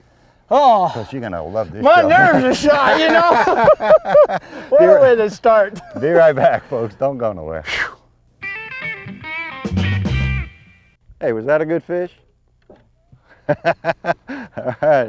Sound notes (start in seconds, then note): 3.6 laughter; 8.5 music stinger; 13.3 laughter